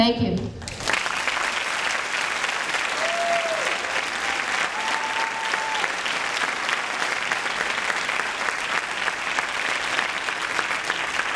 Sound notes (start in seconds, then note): 1.1 audience cheering and clapping